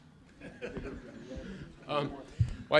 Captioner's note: laughter